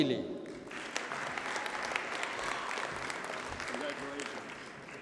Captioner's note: audience cheers and applauds